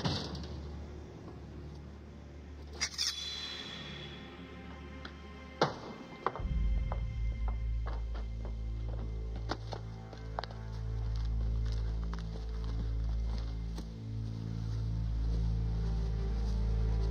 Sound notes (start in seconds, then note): 2.8 blade clanking; 6.5 dramatic music